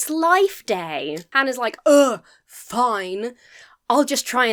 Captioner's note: scoffs